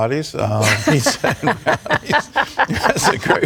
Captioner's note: laughter